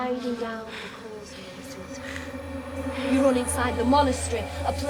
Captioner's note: voices echoing; echoing